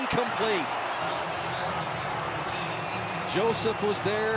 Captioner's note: pa announcement